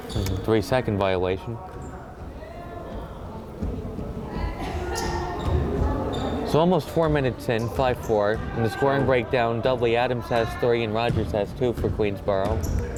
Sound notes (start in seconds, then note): 2.7 crowd chattering